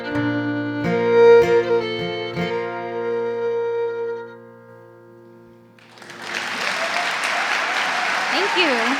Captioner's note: gentle music; audience applauding